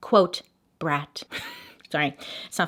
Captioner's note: chuckles